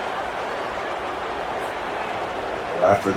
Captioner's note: crowd Noises